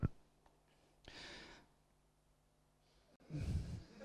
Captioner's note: laughter at slide